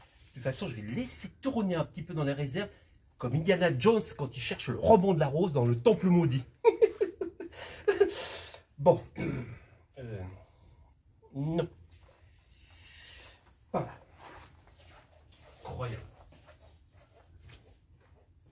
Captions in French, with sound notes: De toute façon, je vais le laisser tourner un petit peu dans les réserves, comme Indiana Jones, quand il cherche le Roman de la Rose dans le temple maudit. [Rires] Bon. Euh... non... Par là ! Incroyable !